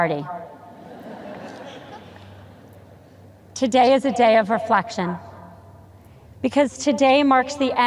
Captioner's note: audience chuckles